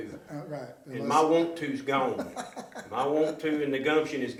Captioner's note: chuckling